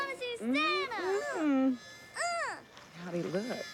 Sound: groans

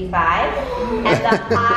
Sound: laughs

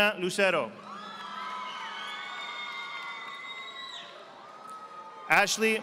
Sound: audience applauding

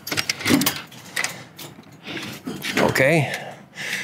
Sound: door clicking

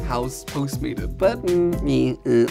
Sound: makes noise of disgust

